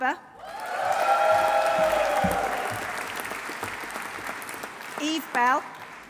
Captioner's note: audience cheering; audience applauding